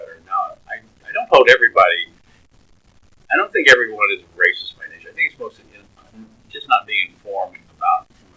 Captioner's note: laughs